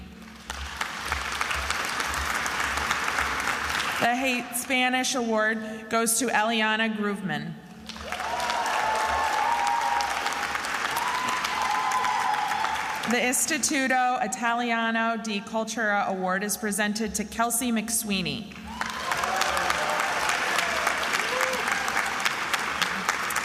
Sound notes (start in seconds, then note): 0.1 attendees applauding; 7.8 attendees applauding and cheering; 18.6 attendees applauding and cheering